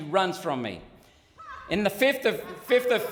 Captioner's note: laughing